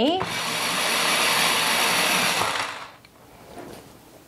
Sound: sharpener whirs

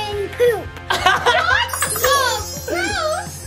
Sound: laughing

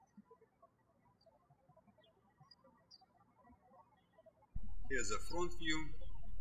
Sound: birds chirping

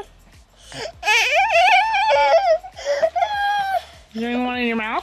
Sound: crying

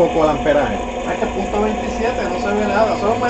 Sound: amps

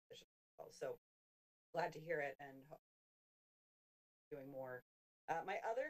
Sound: audio cuts

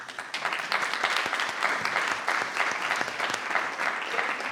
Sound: attendees applauding

